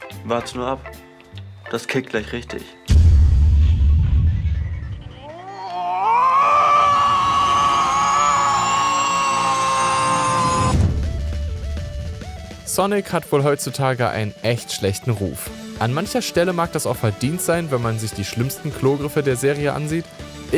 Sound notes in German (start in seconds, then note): 2.9 Dumpfe Klänge, leise Spielgeräusche